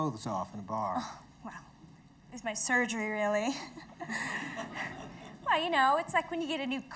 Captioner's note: laughs